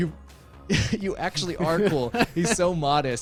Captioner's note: laughs